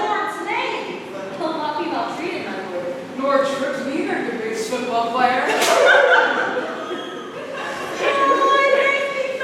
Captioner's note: laughter